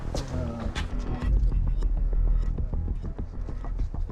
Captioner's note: distant chatter